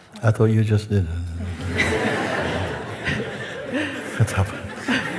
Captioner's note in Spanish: risas